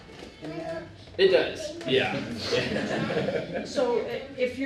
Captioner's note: laughter